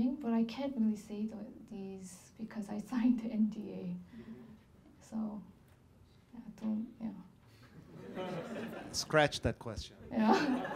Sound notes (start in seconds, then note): 8.0 laughing